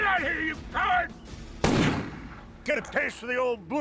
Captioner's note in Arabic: طلقات نارية في الهواء